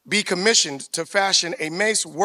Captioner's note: none